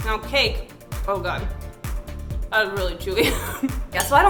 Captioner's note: laughing